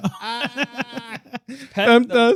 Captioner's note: laughing